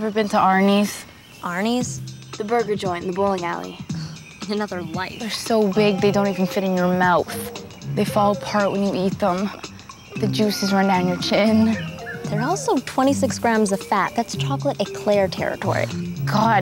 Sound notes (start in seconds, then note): 1.9 whimsical music; 4.0 Megan scoffs